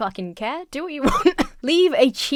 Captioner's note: coughs into laughter